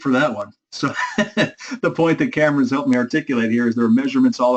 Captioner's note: laugh